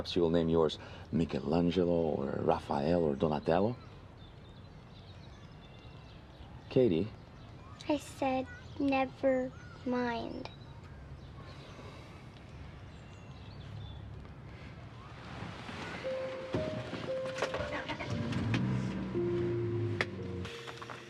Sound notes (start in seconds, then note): 11.2 birds chirping; 18.2 car engine revving; 20.8 gentle music